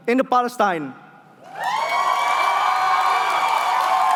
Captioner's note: cheering